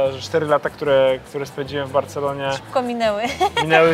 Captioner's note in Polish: śmiech